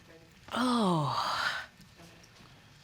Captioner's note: sighs wearily